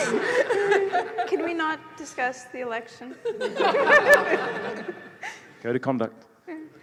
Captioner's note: laughter